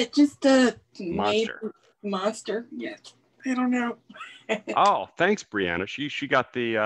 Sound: chuckles

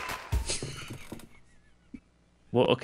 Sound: laughs

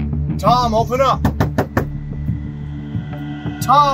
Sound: knocks door

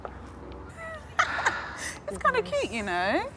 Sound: laughs

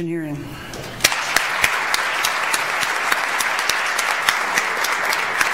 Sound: audience applauds

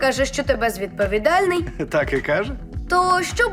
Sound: chuckles

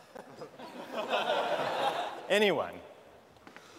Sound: laughter

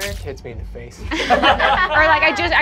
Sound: group laughs

